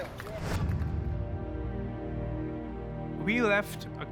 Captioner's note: crowd applauds